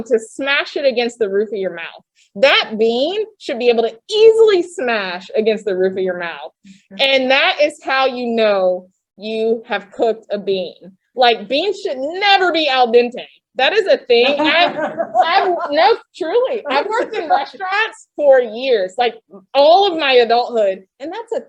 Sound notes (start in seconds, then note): 14.1 laughter